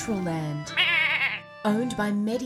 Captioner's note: goat bleats